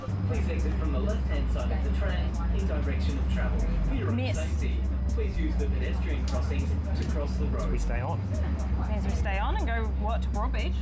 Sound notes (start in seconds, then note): 0.8 Tram announcement arriving at Northcliffe station